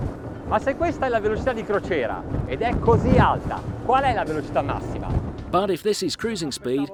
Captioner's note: foreign language